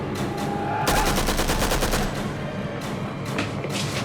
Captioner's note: gun firing